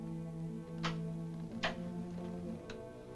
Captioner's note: switches click; ominous music